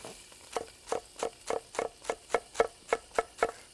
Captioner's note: knife tapping